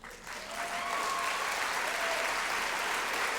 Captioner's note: applause